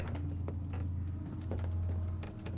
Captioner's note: footsteps